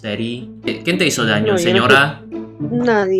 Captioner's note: Spanish; Spanish